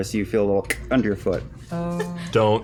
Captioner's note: click